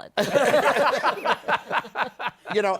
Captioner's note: laughter